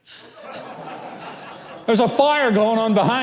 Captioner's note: audience laughs